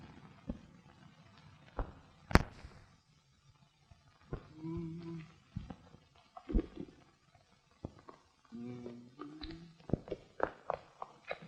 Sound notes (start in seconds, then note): 4.4 humming musically